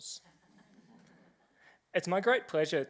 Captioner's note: laughter